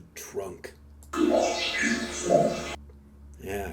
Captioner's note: disembodied Voice